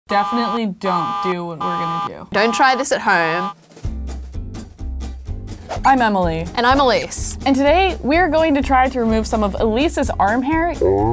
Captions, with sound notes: - Definitely don't do (alarm buzzing) what we're gonna do. - Don't try this at home. (upbeat music) - I'm Emily. - And I'm Ellyse. - And today we're going to try to remove some of Ellyse's arm hair.